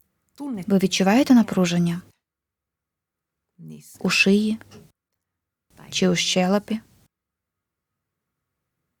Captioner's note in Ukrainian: пауза